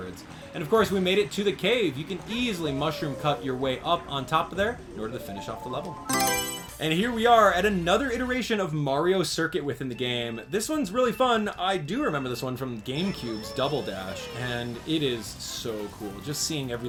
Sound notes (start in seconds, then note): 6.0 Mario Selection Sound